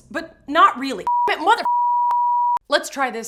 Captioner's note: beep